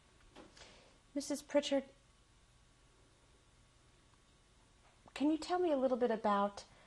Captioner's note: pauses for 3 seconds